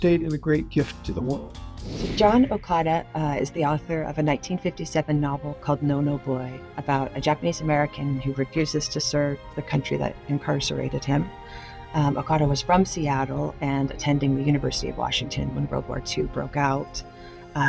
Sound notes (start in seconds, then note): 1.8 screen whooshing; 1.8 gentle music